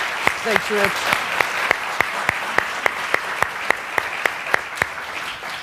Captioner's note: applause